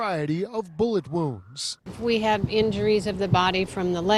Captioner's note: sirens